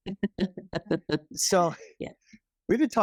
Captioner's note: laughing